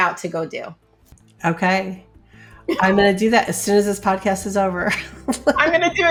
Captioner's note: laughs